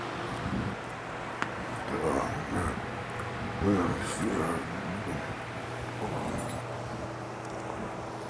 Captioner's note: groaning